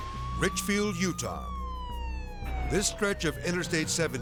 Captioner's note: sirens blaring